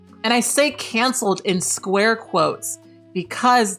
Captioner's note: none